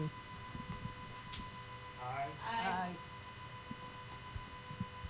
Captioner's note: chorus of ayes